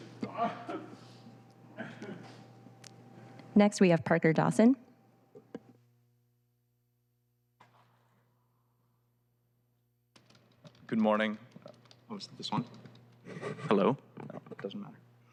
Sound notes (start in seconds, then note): 3.0 laughter